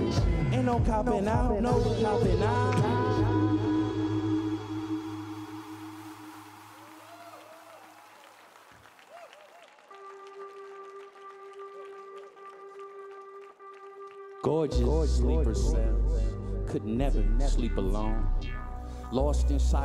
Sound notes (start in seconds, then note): 8.6 audience cheering; 11.1 cheerful electronic music